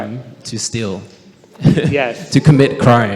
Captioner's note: questioner laughs